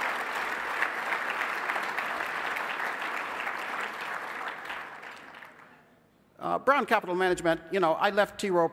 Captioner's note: applause